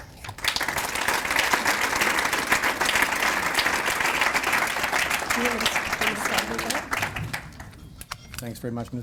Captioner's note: audience Applause